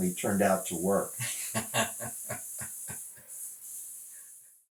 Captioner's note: laughs